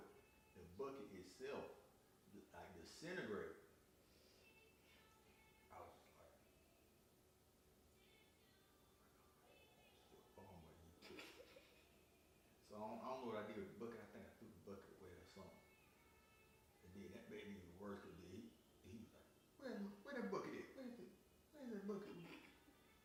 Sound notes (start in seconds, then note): 7.6 whispering to self; 11.0 laughing